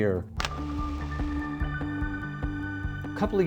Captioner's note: match striking